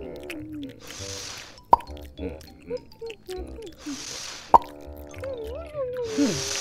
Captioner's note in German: Gebrabbel kauend; Blasen aufblasend und knallend